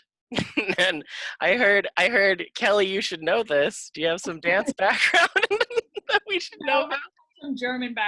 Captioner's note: laughing